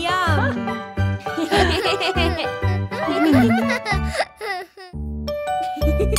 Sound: lighthearted music; all laughing; gentle music

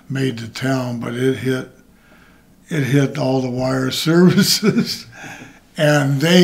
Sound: laughs

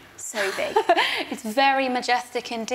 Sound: laughs

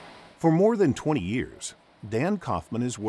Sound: voiceover

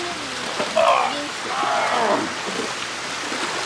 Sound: grunting

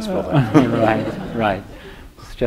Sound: laughter

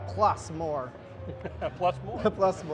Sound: laughing

